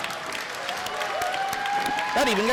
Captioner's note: crowd claps